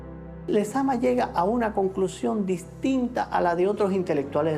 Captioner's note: speaking Spanish